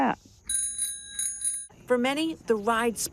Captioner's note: bell ringing